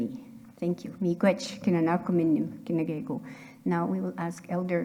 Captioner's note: speaking in Anishinaabemowin